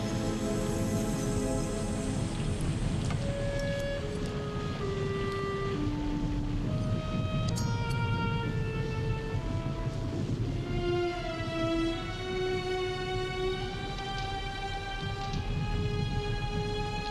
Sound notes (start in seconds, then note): 7.6 blade zings